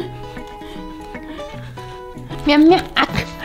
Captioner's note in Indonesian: tertawa